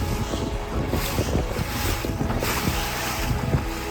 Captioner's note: wind rustling and waves crashing